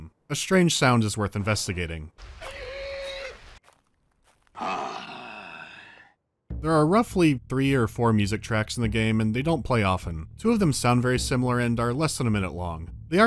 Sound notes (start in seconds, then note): 2.2 pained animal yelp; 4.5 human grunt